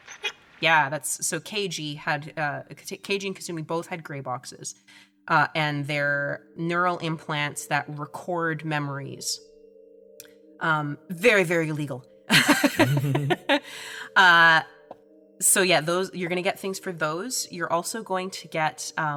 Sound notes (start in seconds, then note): 12.3 chuckles